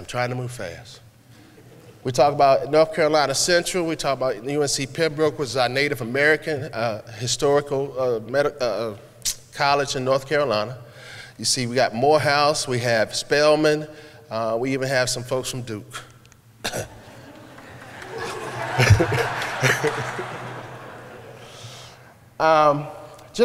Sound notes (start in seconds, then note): 16.6 coughing briefly; 16.9 laughter